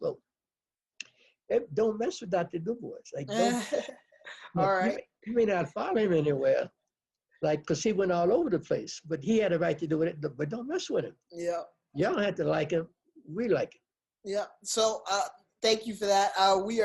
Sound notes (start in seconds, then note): 3.2 laughs